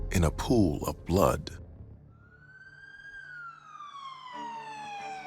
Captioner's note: sirens blaring